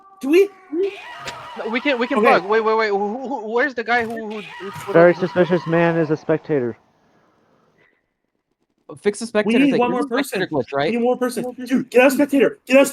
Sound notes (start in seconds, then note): 0.2 Peppino Spaghetti Screams